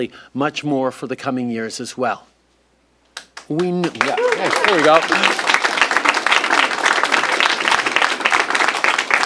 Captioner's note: applause